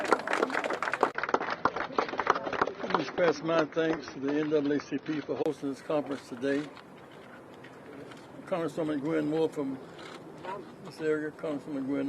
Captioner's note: applause